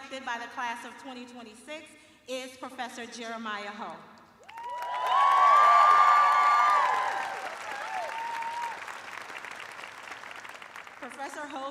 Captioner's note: cheers and applause